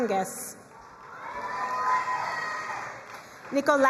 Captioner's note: crowd cheering and applauding